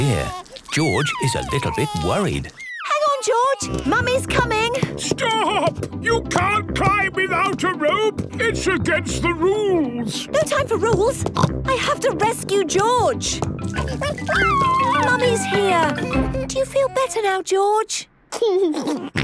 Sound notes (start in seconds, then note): 10.8 snorts; 13.7 George crying; 17.7 giggles